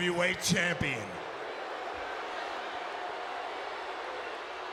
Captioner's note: crowd boos